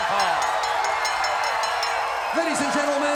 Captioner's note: bell rings; crowd cheers